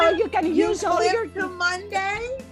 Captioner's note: excited chattering